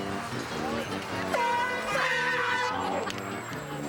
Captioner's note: honks